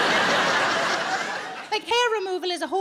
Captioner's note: audience laughs